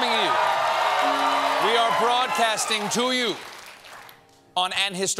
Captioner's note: cheers and applause